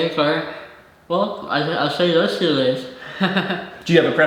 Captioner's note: chuckles